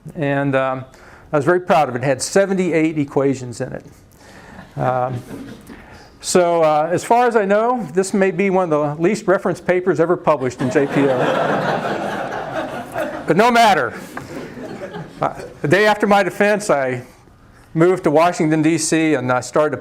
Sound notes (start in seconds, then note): 4.6 laughs; 10.5 laughter